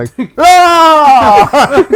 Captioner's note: screaming